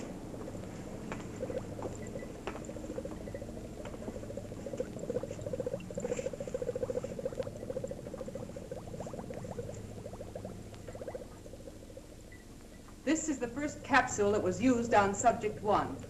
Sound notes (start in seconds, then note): 2.0 liquid bubbling